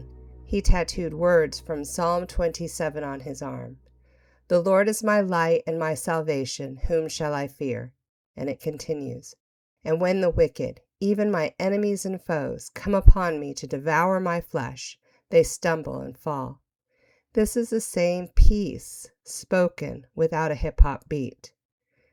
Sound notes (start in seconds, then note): 4.2 reading verse aloud